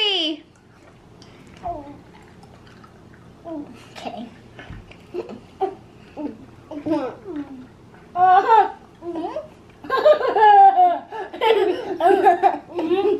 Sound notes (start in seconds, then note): 3.9 gulps; 10.0 laughs